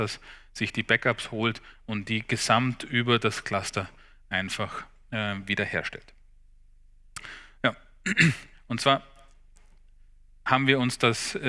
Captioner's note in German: räuspern